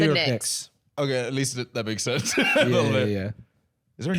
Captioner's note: laughs